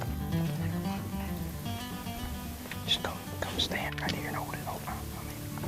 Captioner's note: whispering together